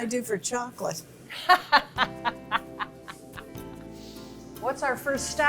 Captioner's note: laughing